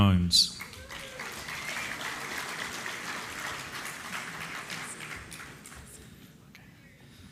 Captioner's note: applause